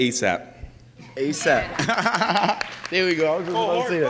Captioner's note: laughs